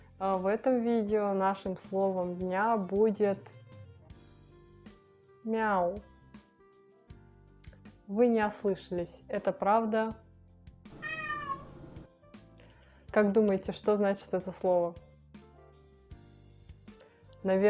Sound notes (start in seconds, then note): 10.9 cat sounds